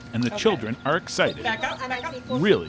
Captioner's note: school bell rings